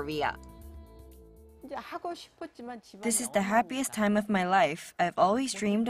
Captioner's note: Korean